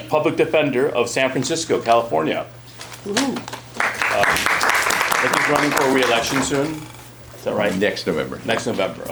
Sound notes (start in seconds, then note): 3.7 applause